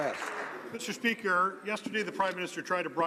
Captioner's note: some Applause